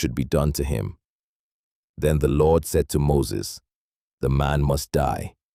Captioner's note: speaking with sternness